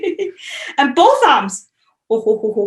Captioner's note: laughing